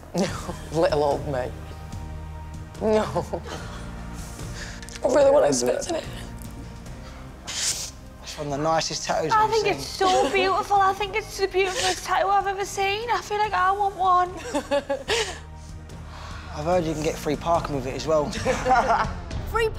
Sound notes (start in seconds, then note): 2.9 laughs; 11.7 sniffles; 14.4 laughs; 18.2 laughs